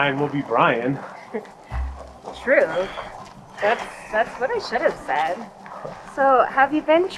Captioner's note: chuckles